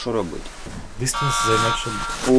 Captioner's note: alarm goes off